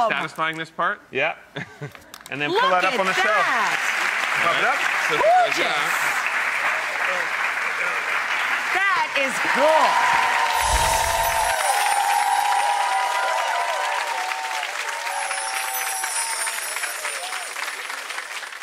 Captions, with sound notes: This is very satisfying, this part. Yeah. And then put that up on the shelf. Look at that! (audience applauds) Pop it up. Gorgeous! That is cool. (audience cheers) (gently chiming bells) (gently chiming bells)